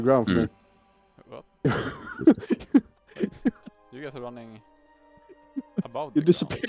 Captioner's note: hahah